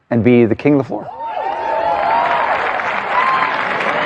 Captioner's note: cheering and applause